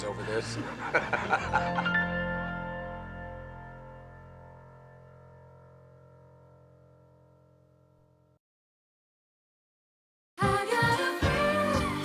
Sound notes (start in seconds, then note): 0.0 chuckles